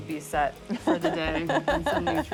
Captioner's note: laughs